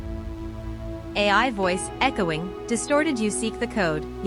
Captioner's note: echoing, distorted